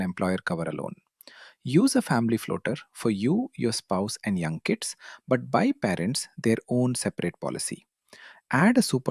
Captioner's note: thoughtful